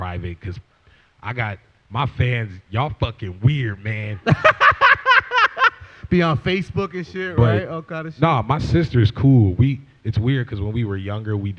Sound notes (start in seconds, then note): 4.2 laughter